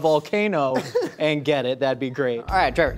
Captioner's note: laughs